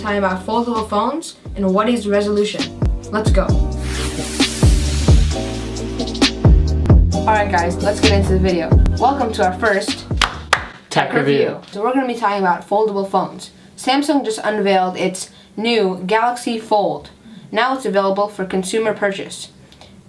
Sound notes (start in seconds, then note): 10.2 clap Clap